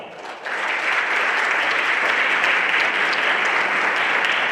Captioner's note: everyone applauding